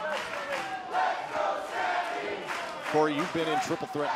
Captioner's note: fans chanting